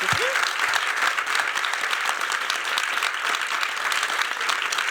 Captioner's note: applause